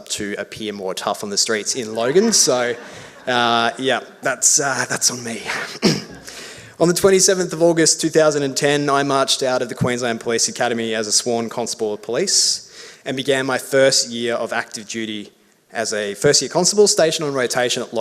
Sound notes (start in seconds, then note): 1.8 audience laughs; 5.5 clears throat